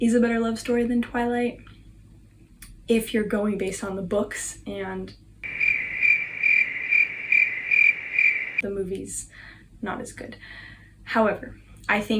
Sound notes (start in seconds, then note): 5.4 crickets